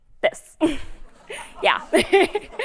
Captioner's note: laughter